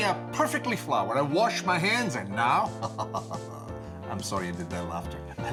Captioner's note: laughs